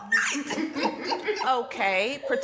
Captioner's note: laughing